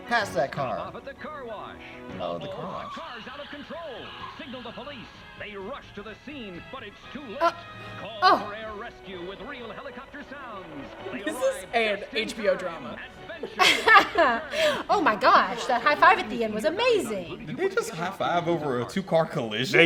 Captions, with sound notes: Pass that car. - This is an HBO drama. (laughs) - Oh my gosh. That high five at the end was amazing. - Did he just high five over a two car collision?